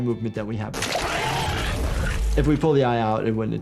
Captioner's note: monster screams